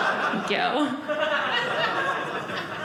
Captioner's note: audience laughing